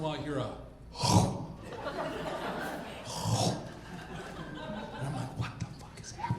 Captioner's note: imitates crunching noise